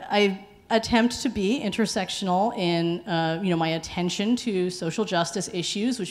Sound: none

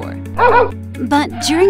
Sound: dog bark

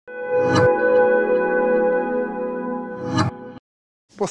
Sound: AOL sound

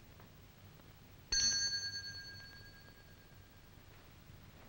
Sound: bell dinging

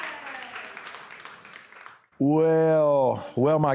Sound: applause

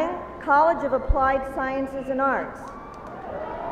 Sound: cheering

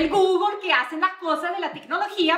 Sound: non-english speech

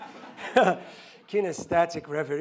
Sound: laughing

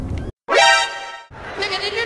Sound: surprised noise

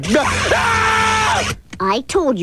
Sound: bzzzt!

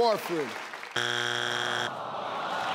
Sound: electronic buzzing; audience groaning

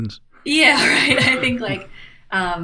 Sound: chuckle

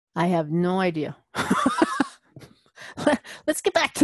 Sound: laugh

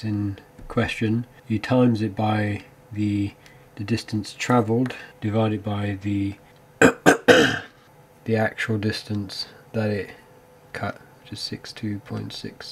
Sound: cough

